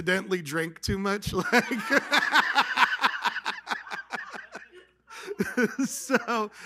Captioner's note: laughter